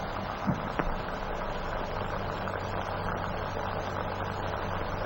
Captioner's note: machine whirring